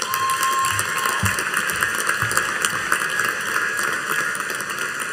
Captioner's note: audience cheering and applauding